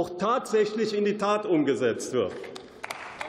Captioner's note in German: Beifall